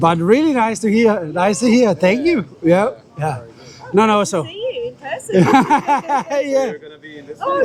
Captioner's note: laughter